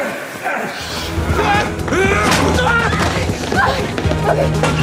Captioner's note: actors grunting